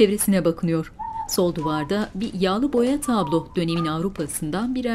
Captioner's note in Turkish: Islık sesi